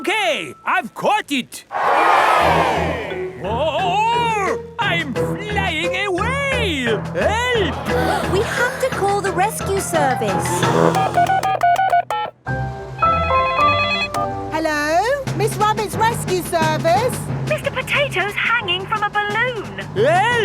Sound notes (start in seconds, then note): 1.7 crowd cheers; 10.9 beeping; 13.2 phone ringing